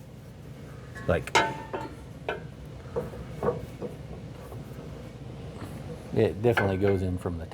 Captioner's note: clanking